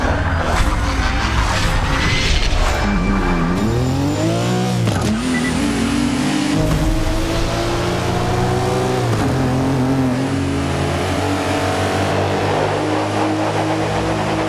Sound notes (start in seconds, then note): 0.0 car Burnout sound; 2.0 car Engine Sounds